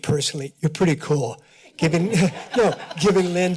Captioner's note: laugh